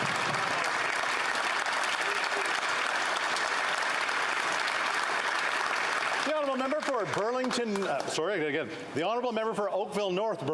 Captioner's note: applause